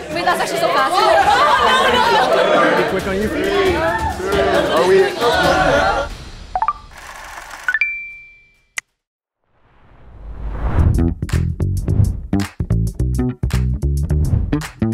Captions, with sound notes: (group chatters) - Three, two, one. (computer sounds) (upbeat music)